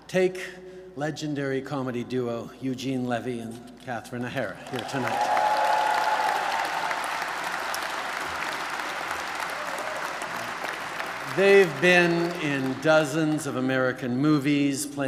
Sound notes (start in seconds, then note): 4.6 applause